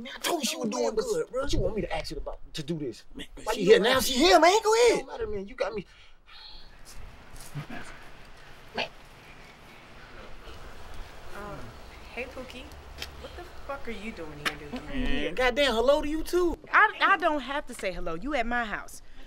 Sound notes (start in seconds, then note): 6.8 grass crunching; 7.5 sighs